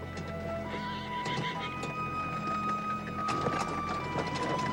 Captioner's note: horses whinnying